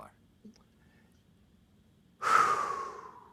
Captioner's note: sighs